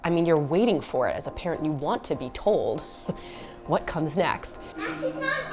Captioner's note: chuckles